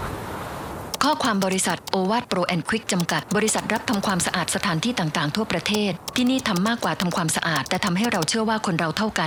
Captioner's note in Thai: เสียงคีย์บอร์ด